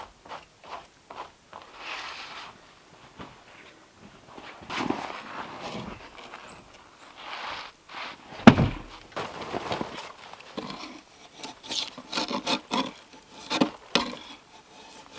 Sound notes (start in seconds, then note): 7.1 log scraping; 8.3 log thuds; 11.7 metal scraping